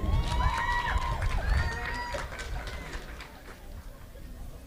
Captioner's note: audience applauding